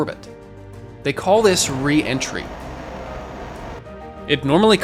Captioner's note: capsule humming